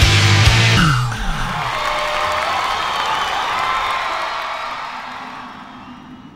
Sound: crowd cheers and applauds; wind blows gently

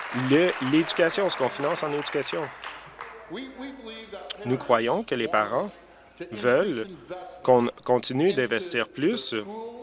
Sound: applause

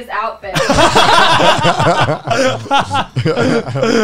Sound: laughing

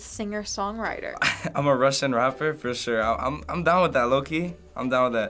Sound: chuckles

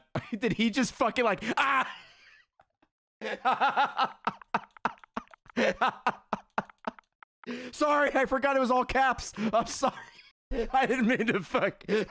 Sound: laughs

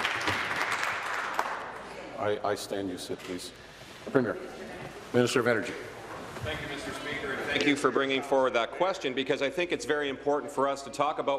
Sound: applause

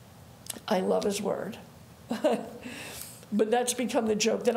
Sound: chuckles

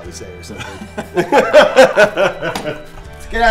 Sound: both laugh

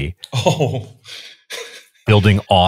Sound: laughing

